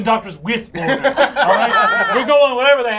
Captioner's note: all laugh